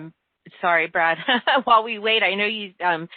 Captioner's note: chuckles